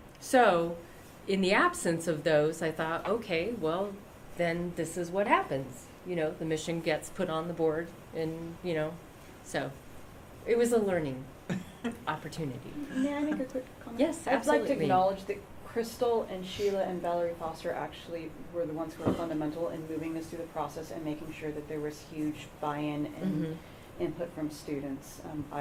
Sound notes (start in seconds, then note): 11.5 laughter